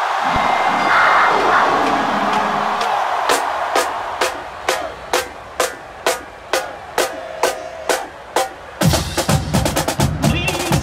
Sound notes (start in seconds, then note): 0.2 Nittany Lion roar